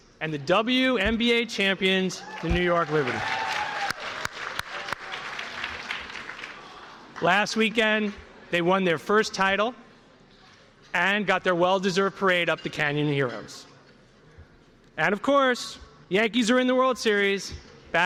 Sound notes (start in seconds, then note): 2.2 cheers and applause